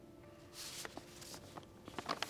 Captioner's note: envelope crinkles